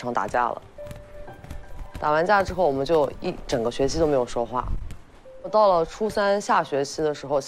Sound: sample 2: The sound of playing basketball

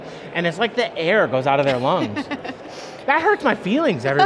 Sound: laughing

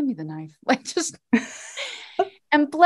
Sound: both laughing

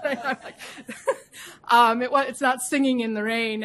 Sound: laughter

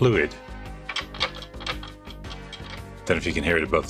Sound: tape clattering

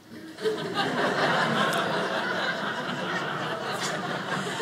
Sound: audience laughing

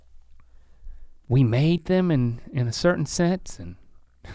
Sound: laughs

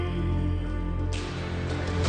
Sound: whip cracking; dramatic music

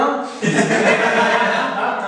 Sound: laughing

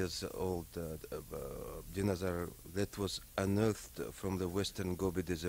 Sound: stutters

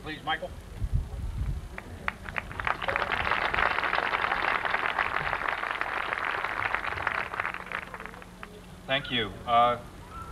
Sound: applause

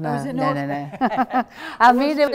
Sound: laughing

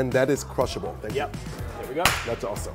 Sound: hands clap

